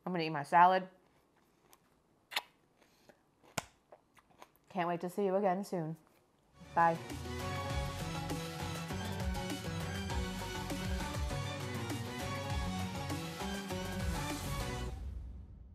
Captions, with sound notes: I'm gonna eat my salad. (salad crunching) Can't wait to see you again soon, bye. (lively music)